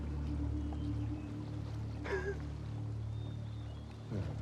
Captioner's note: rire doux